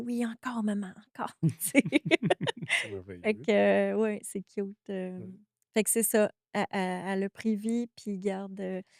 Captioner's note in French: rires